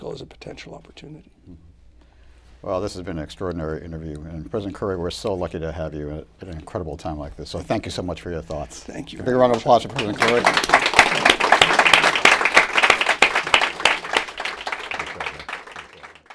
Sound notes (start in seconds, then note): 10.2 applause